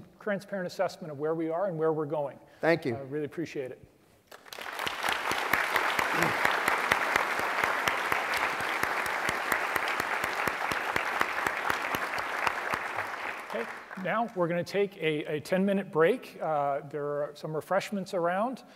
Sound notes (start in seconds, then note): 4.2 applause